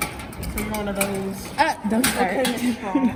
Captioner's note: clanking